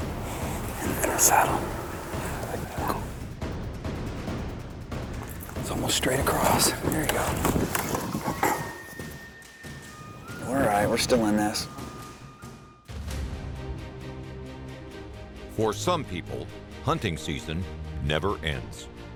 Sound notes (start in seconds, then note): 1.4 whispers